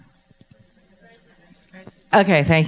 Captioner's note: woman talking off mic